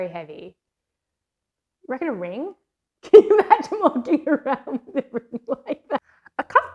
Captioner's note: laughs